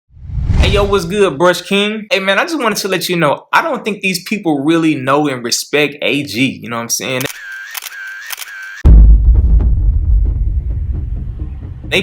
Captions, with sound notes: Hey, yo, what's good, Brush King? Hey, man, I just wanted to let you know I don't think these people really know and respect AG. You know what I'm saying? [SHUTTER CLICKING] [RUMBLING]